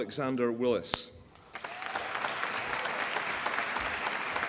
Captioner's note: applause